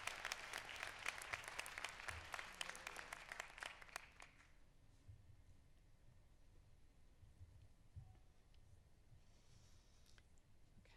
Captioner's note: applause